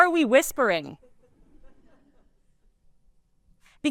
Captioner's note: laughter